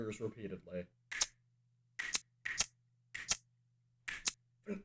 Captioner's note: fingers snapping and sparks